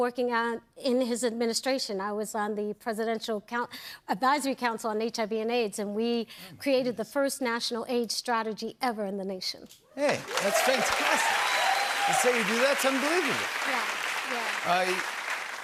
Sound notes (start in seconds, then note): 10.0 cheers and applause